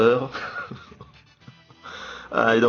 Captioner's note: laughs